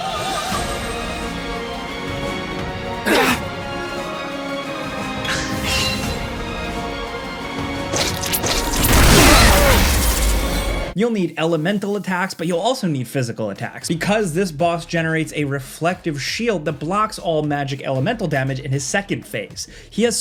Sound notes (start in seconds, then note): 0.2 tense music; 5.7 swords clashing; 9.3 dramatic music